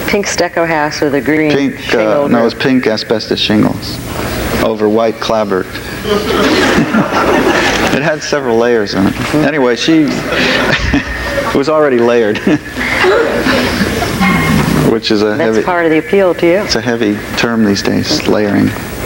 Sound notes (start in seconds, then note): 5.8 audience laughs; 9.0 laughs